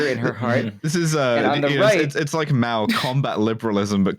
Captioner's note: laughing